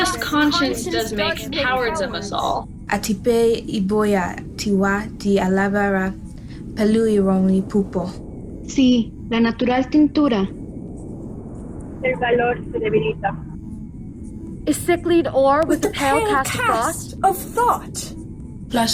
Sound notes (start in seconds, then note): 3.2 girl speaking foreign language; 8.8 girls speaking foreign language